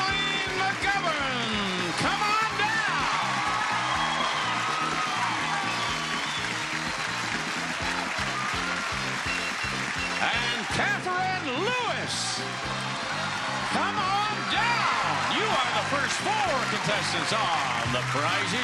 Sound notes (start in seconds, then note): 3.7 audience applauding; 3.7 lively music